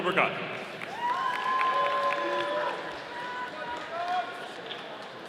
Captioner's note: audience applauding